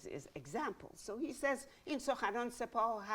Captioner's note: speaking in Farsi